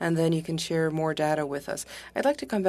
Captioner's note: speaking French